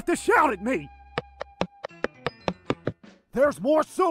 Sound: footsteps

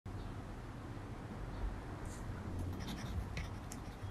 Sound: pen scribbling on paper

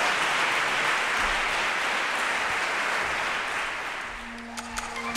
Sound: applause

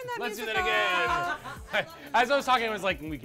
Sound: all laughing

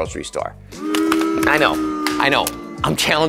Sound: crowd

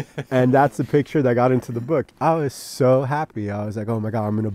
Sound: laughing

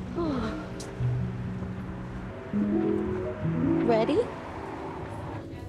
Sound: sighing

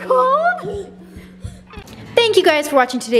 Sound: chuckles

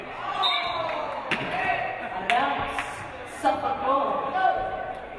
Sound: referee blows whistle

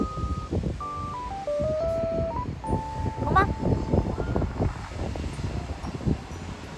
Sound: sniff sniff

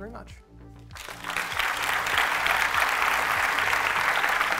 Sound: audience applauds

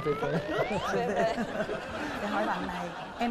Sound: laughing

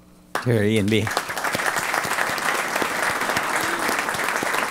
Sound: applause

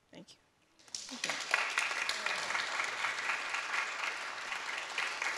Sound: applause

